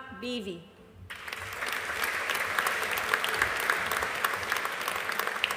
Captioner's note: audience applauding